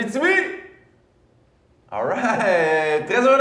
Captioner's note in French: Silence